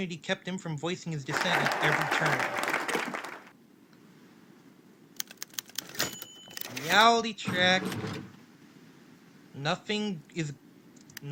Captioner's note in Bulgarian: Аплодисменти